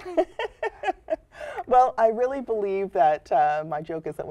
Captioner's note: laughter